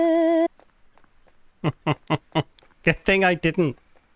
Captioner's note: laughs in bucky